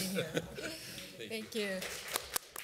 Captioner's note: applause